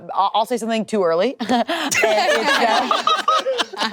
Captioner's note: group laughing